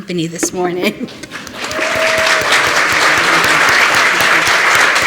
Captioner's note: applause